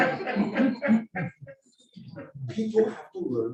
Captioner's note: audience laughing